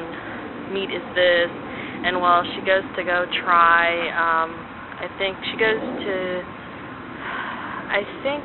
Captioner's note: sigh